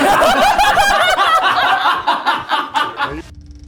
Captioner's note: group laughs